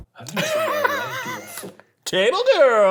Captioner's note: laughing